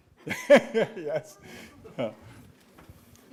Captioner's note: laughs